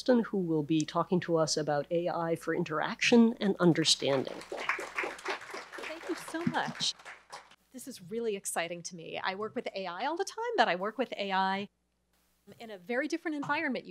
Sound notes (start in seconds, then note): 4.0 audience applauds